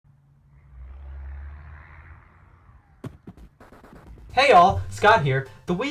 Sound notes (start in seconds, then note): 0.0 engine revs; 3.0 package hits ground